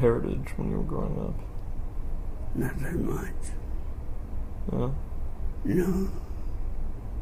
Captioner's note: almost under his breath